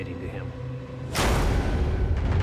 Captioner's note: slam